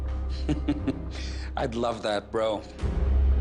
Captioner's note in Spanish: Risas